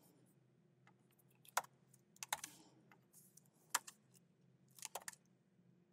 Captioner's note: keyboard clacking continues